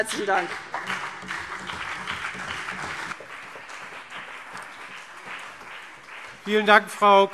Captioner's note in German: Beifall CDU und BÜNDNIS 90/DIE GRÜNEN